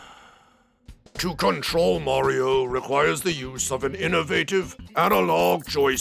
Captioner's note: sighs